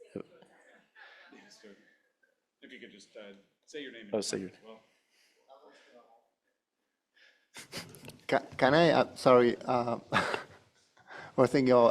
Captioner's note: speaker off mic